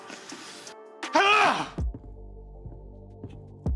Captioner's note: Isaac screaming; dramatic music